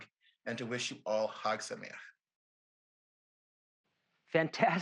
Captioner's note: speaks Hebrew